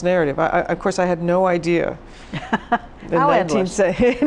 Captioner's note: laughs